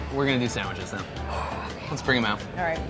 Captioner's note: heavy breathing